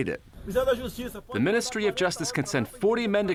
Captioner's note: through translator